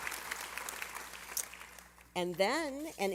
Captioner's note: applause